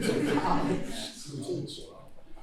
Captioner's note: laughter